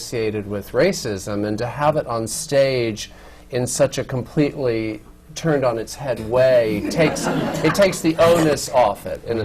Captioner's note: laughter